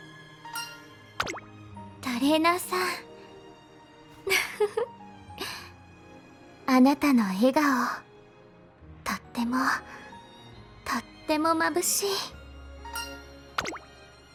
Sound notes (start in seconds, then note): 4.2 laughs